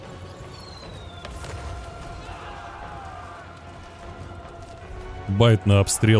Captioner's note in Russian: крик